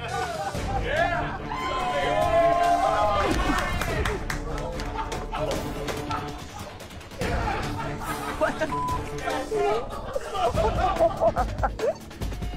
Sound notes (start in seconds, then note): 1.4 crowd cheering; 1.4 tense music; 9.0 women laughing